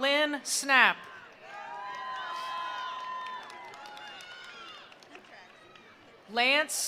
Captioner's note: attendees cheering; attendees applauding